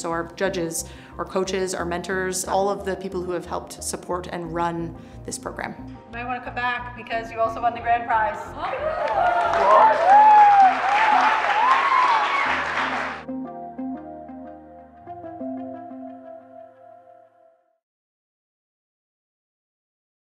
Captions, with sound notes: so our judges, our coaches, our mentors, all of the people who have helped support and run this program. You might wanna come back, because you also won the grand prize. (audience cheering and clapping) (gentle music)